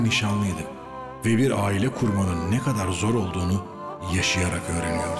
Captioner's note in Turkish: Ahmet dış ses